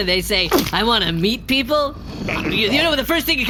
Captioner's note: growl-gargles